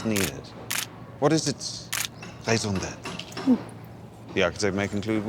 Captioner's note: camera shutter clicks